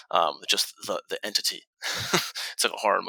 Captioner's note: chuckles